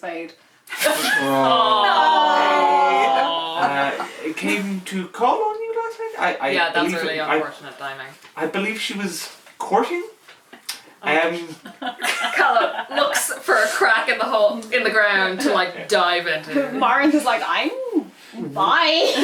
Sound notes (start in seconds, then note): 0.9 laughter and groaning; 11.6 laughs